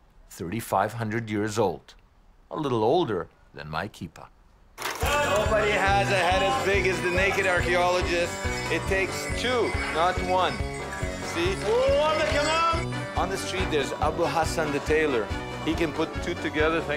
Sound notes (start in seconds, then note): 12.2 man speaking in foreign language